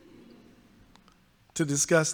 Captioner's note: audience laughs